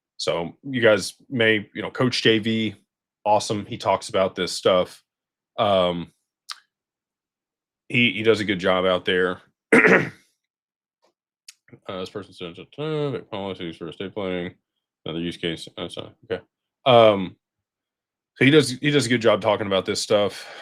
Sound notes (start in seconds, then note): 9.7 clears throat